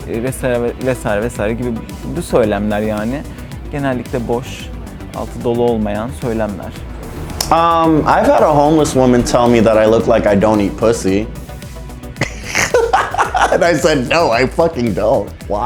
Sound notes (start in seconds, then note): 12.2 laughing